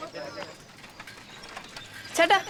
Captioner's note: humming